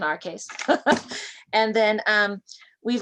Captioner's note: laughter